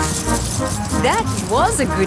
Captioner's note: coins jingling